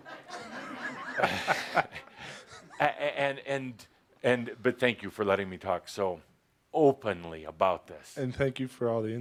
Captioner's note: laughter